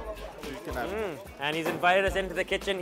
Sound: delighted hum

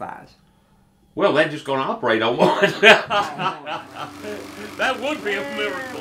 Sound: laughs

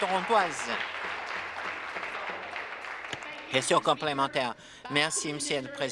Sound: applause

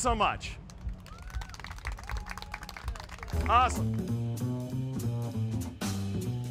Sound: applause

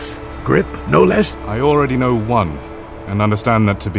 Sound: sarcastic

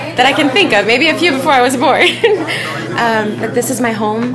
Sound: laughs

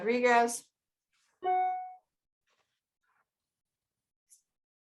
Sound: electronic pinging

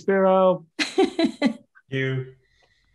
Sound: laughs

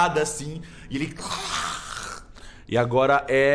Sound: long growl

